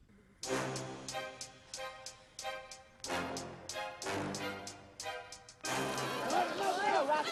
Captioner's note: laughter